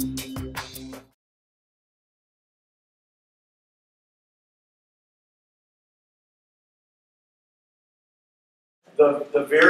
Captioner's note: silence